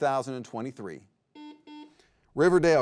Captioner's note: buzzer beeps